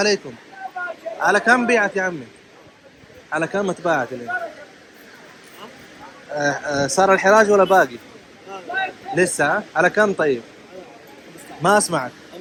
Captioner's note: talking in Arabic